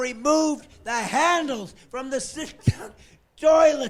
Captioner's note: laughing